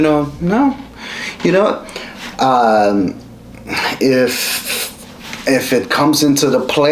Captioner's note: vocalizes